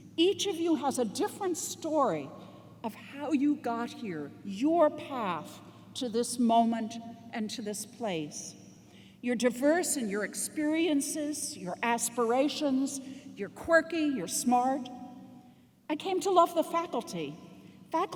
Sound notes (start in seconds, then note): none